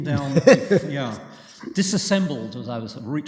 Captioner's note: laughter